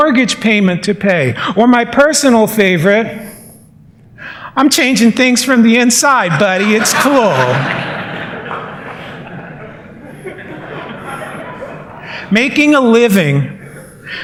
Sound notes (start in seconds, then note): 6.4 laughter